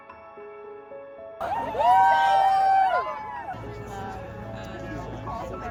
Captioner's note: cheering